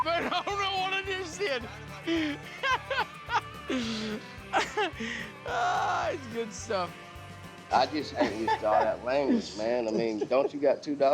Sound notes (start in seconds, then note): 0.0 swearing, laughing; 3.4 continues laughing